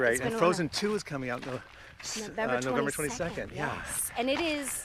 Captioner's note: in Unison